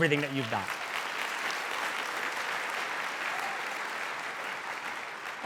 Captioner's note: audience applauding